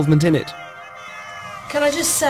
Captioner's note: screaming